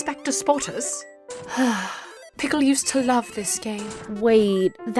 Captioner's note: sighs